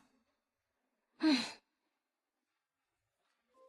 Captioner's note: thở dài